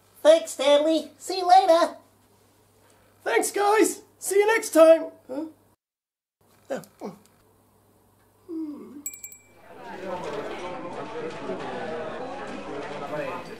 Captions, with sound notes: Thanks, Stanley! See you later! Thanks, guys. See you next time. Huh? Hmm... [Bell dings] [Lively chatter at mall]